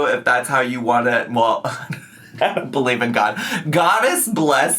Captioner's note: laughs